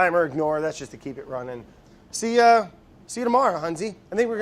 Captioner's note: none